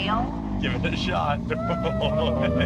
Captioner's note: siren wailing; laughing